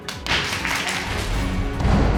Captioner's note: gavel banging